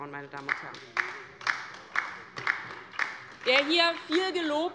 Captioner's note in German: Beifall bei der LINKEN